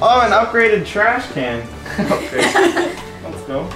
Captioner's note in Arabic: يضحك الجميع